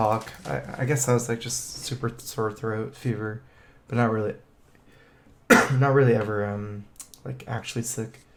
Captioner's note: cough